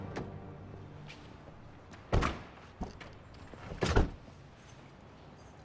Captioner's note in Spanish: Sonido de las puertas